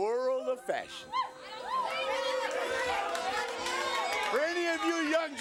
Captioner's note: applause